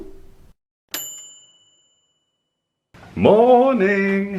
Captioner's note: ping